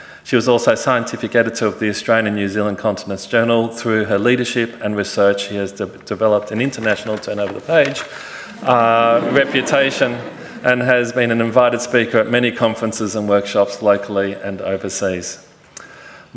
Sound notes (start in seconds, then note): 8.4 audience laughing